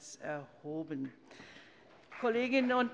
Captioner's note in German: Beifall bei der CDU und dem BÜNDNIS 90/DIE GRÜNEN